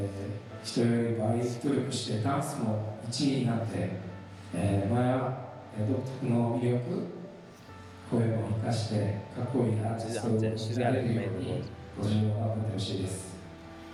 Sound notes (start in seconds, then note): 8.1 speaking in foreign language